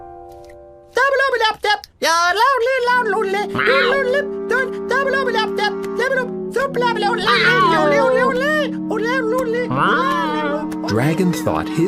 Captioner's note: Dragon "yodeling" again